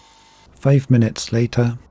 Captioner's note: UV cleaner buzzing